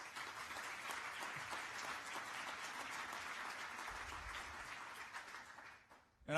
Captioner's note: applause